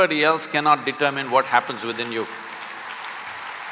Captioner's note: applause